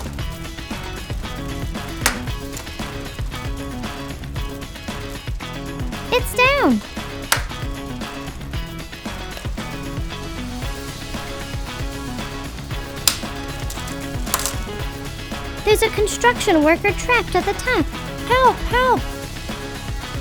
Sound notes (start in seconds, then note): 0.3 upbeat music; 6.0 upbeat music; 7.5 tile crackling